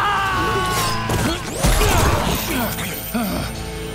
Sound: screaming; grunting

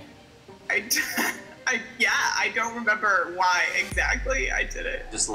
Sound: laughs

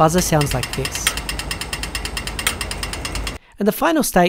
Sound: rapid clicking

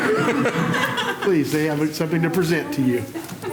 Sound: laughter

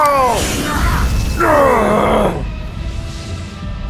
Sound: goblins Being Blinded Noises

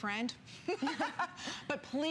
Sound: laughter

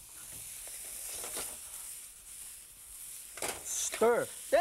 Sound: fried rice sizzling

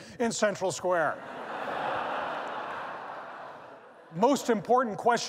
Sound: laughter

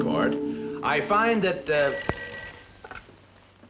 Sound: telephone ringing

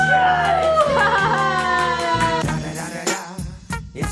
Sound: cheering

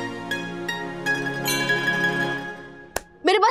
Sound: happy music; temple bell chiming

